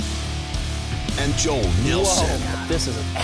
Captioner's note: voiceover